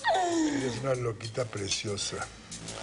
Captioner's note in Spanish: Ríe